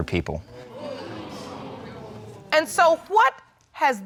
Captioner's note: audience exclaiming